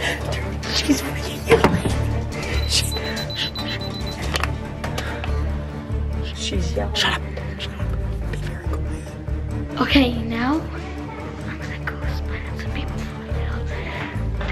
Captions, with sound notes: (whispering) - She's yelling - Shut up!shut up! - Okay. Now. (whispers)am gonna go spy on some people.